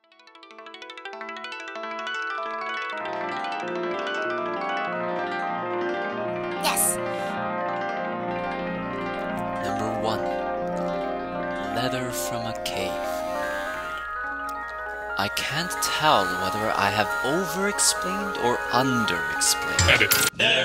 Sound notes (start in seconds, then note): 0.1 synth music; 6.8 modulated voice; 7.4 synth music